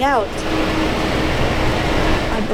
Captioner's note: school bus engine